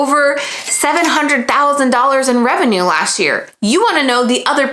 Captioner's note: bell chiming